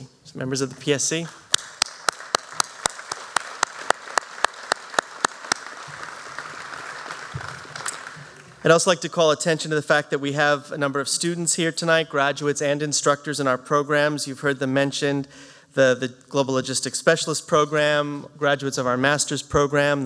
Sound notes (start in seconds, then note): 1.4 applause